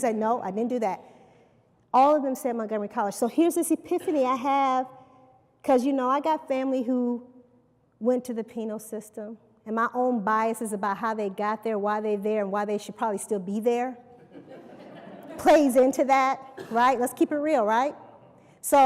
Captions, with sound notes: He said, I didn't do that. Here is this epiphany I had. I had family who went through the system and I have my biases about why they were there, why they should still be there. [LAUGHTER] Let's keep it real.